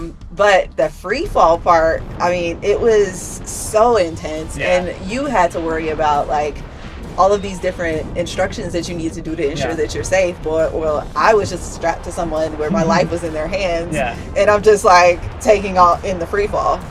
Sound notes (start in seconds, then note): 13.9 laughs